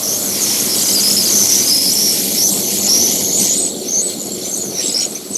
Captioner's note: Nitro machine welding